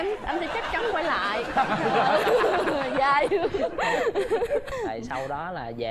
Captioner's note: laughing